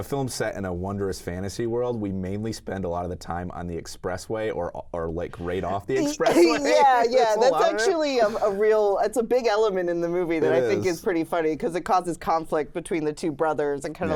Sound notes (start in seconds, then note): 5.6 laughs